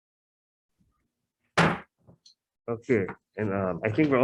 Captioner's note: gavel slamming